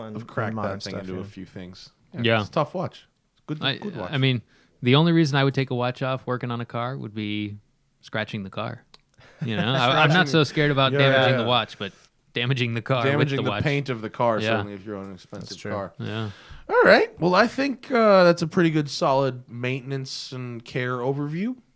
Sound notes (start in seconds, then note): 9.3 laughter